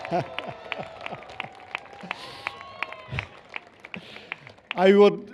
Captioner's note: cheers